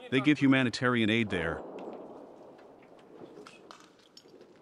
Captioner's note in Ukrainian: вибух артилерії на фоні